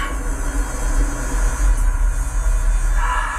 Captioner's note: engine sounds begin